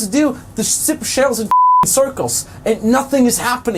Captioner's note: beep